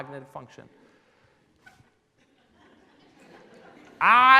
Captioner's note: laughing